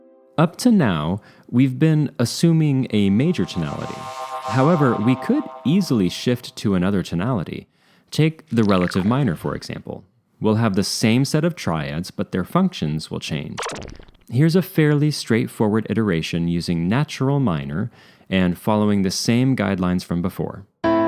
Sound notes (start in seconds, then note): 2.9 sci-fi sweep; 13.6 laser blast